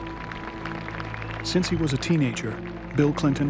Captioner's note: applause